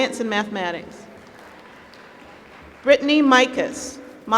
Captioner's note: applause